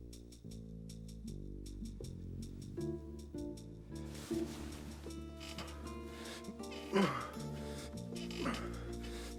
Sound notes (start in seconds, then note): 6.6 grunting